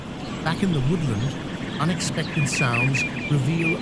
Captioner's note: birds chirping